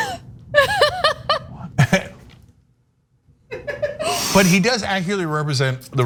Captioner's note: laugh